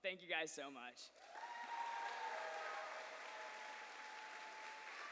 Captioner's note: cheers and applause